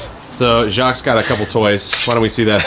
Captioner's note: metal rasping